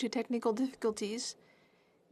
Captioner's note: speaking in French